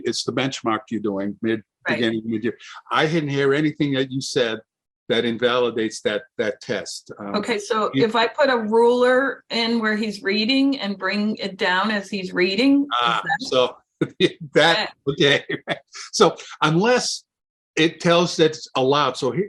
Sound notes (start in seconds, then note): 15.1 chuckles